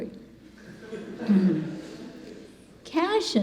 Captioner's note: congregation laughing